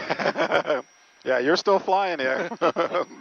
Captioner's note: laughs